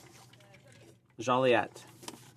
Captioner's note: speaking French